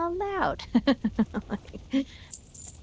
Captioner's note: laughing